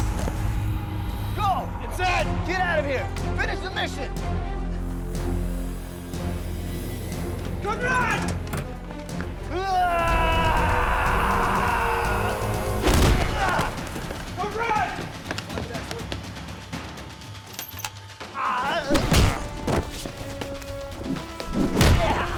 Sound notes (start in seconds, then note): 9.9 yelling